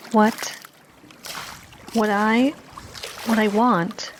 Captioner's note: none